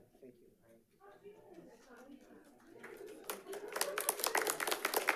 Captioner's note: people chattering; audience applauding